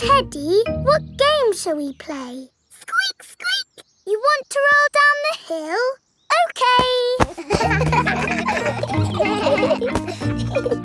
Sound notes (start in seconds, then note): 7.2 kids laughing